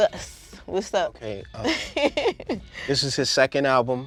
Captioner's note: laughing